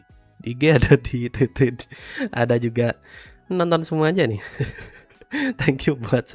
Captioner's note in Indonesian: tertawa